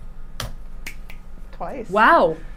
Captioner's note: snapping his fingers